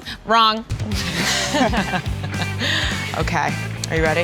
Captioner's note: all laughing